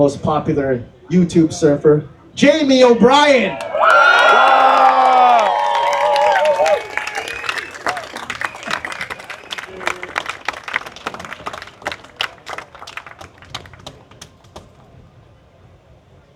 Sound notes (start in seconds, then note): 3.5 applause